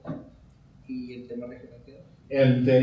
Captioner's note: speaking in Spanish